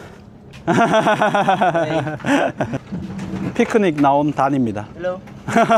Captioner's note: laughs